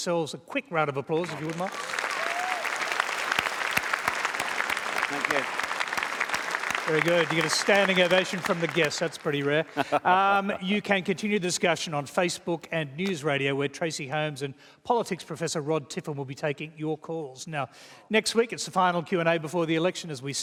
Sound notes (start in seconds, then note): 2.3 applause; 9.5 laughs